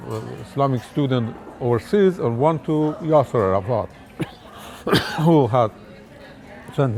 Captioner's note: coughs